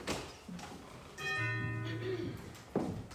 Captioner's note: door bell rings